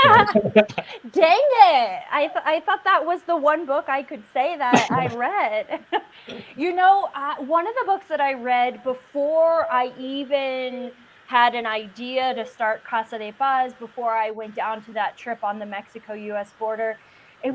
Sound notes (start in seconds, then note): 0.0 laughing; 4.7 laughs